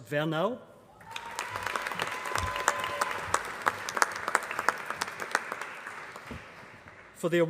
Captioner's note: applause